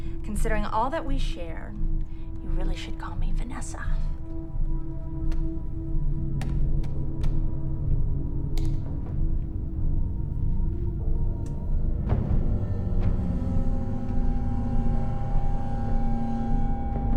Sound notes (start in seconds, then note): 5.5 dark tense music; 8.6 keyboard clicks; 10.4 dark tense music